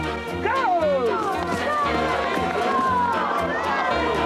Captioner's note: cheering